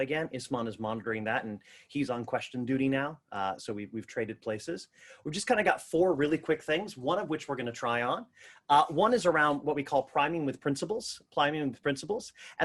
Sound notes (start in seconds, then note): none